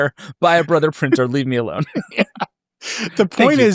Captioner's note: laughs